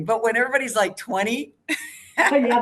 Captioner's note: laughs